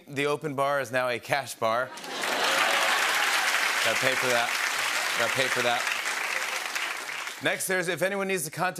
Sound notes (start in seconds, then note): 1.9 cheering and applause